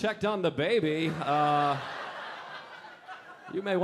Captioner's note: audience laughing